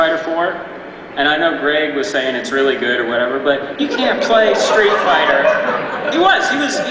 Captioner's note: crowd laughs